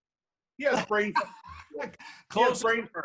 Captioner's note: laughing